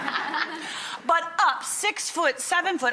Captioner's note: laughter